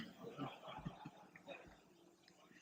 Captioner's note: laughter